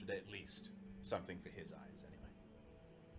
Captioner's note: none